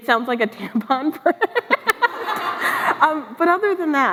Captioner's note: laughs